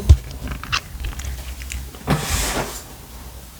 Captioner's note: sound of cat licking lips